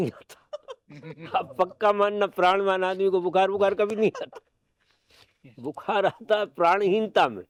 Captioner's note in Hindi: हंसी